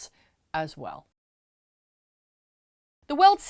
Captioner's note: no Sound Present